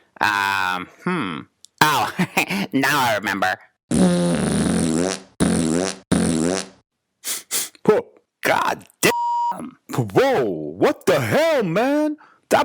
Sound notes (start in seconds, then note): 1.9 laughs; 3.9 Mr. B trills lips; 7.2 Boogy sniffs; 9.0 beep